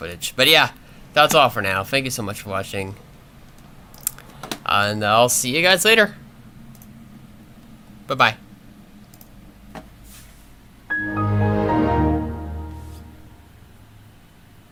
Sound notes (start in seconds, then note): 10.9 Windows XP shutdown sound plays